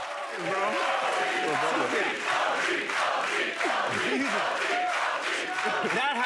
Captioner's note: chanting